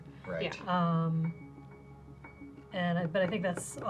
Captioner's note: pat